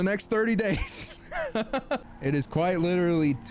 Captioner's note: laughing